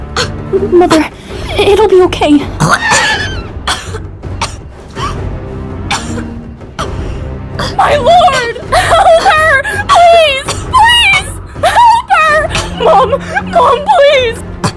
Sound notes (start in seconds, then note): 2.5 Charisma spitting blood